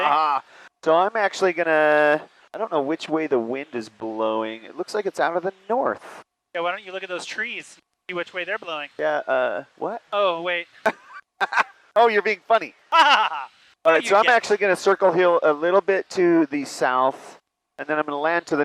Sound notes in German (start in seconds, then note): 12.9 lacht wahnsinnig